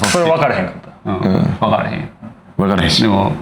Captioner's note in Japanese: 咳払い